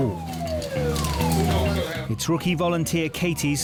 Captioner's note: alarm blaring; rescuers chattering